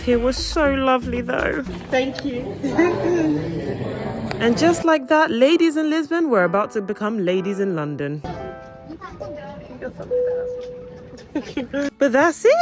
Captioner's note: laughs